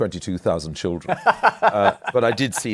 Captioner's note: laughs